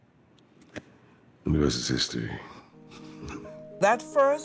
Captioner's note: chuckles